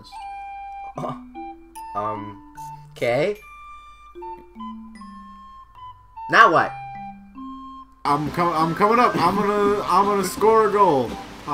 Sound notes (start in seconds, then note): 0.7 skoff